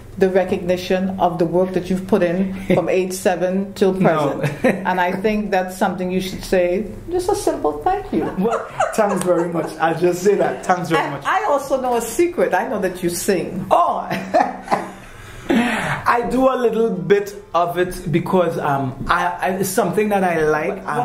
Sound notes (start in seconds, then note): 14.1 laughing